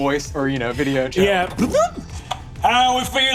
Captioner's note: vocalizes beeps